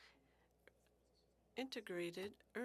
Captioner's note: speaking French